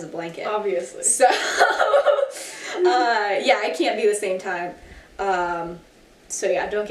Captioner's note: laughs